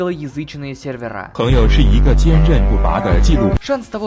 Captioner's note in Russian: звуки иностранца